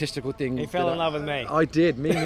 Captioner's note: laughs